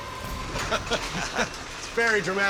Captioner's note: laughter